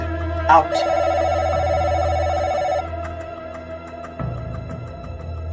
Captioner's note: phone ringing